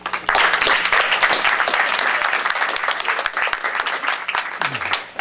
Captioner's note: applause